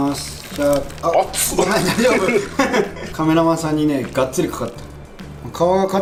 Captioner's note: haha